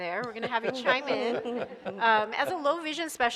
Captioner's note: laughs